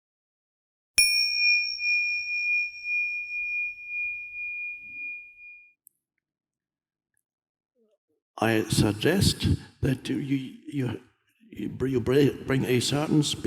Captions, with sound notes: (bell dings) - I suggest that you bring a certain spiritual practice,